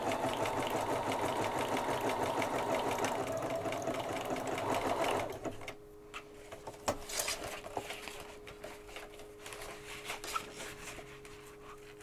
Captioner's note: sewing machine whirrs